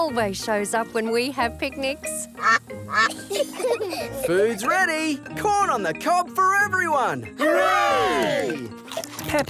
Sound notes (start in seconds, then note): 2.4 quacking; 3.0 children giggle